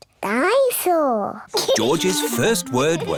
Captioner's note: giggles